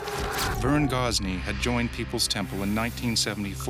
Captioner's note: voiceover